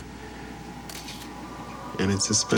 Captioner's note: camera takes picture